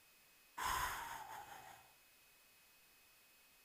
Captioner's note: long sigh of relief